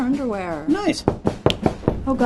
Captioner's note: knocking